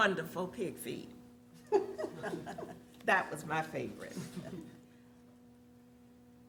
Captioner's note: laughter